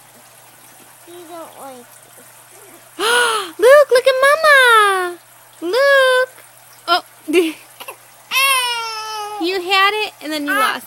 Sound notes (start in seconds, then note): 2.9 gasps; 6.6 giggles; 8.3 baby cries